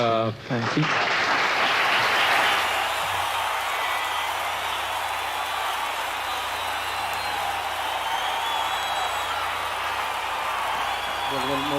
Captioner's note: audience applause